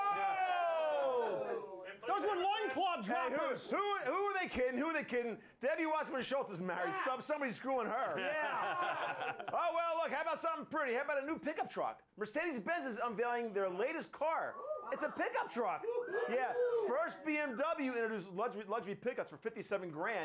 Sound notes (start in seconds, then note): 8.2 laughter; 14.4 scattered approval